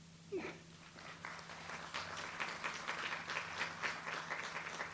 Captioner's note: audience applauds